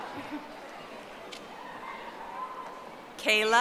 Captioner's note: audience applauding